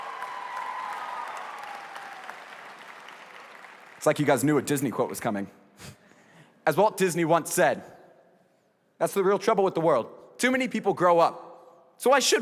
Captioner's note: applause